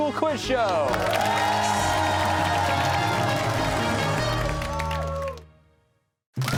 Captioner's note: cheers and applause